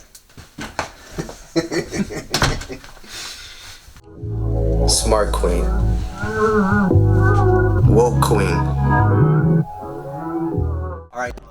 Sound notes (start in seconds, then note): 1.2 laughs; 2.2 door slams